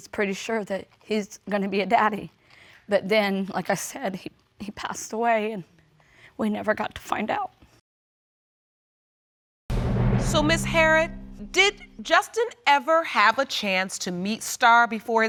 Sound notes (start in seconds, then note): none